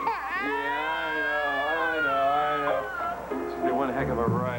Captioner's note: crying